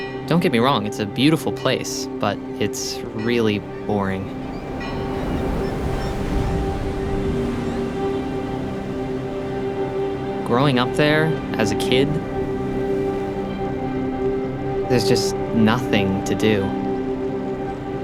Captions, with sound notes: Don't get me wrong, it's a beautiful place, but it's really boring. [waves crashing] [seagulls squawking] Growing up there, as a kid, there's just nothing to do.